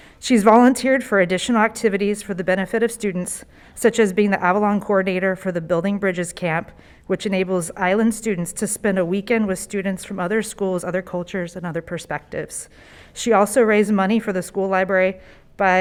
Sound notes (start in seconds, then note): none